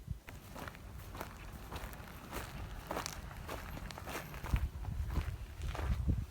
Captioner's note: more walking and footsteps